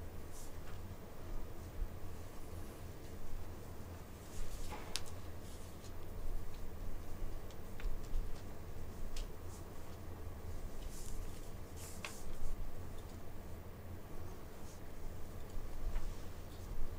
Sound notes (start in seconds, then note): none